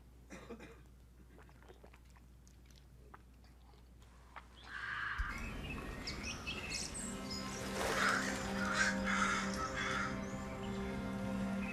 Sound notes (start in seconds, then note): 4.0 forest sounds